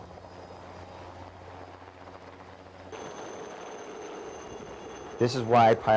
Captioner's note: helicopter rotor noise